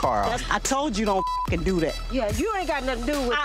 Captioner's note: beep